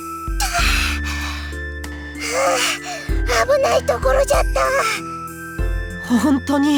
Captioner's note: sigh